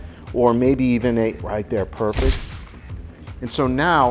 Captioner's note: shutter clicks